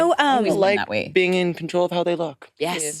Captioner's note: participants chattering